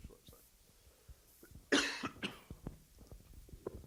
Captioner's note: coughs